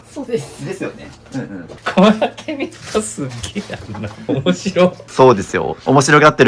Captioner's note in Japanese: 笑い